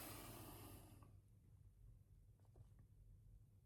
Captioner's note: sighs